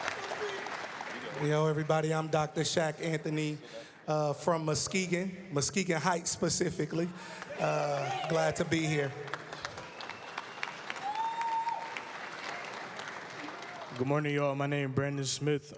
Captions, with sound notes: >> Hello, everybody. I'm Dr. Shaq Anthony from Muskegon Heights, specifically. Glad to be here. [APPLAUSE] >> Good morning, y'all. My name is Brandon Smith.